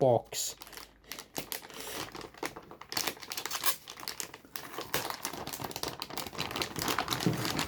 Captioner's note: motherbord anti-static bag noise